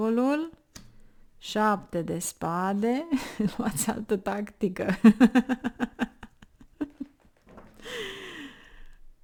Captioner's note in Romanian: Râsete